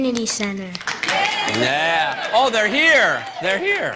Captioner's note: applause